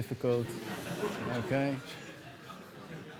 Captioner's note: laughter